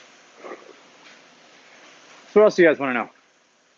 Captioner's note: exhales